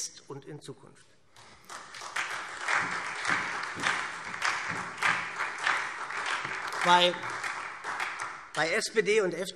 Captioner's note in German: Beifall SPD